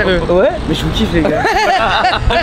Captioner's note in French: rires